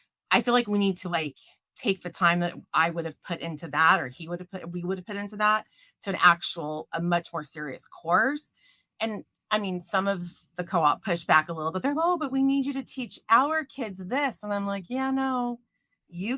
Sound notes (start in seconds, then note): none